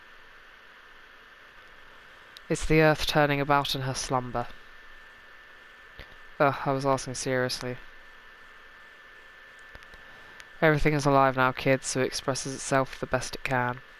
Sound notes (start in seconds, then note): none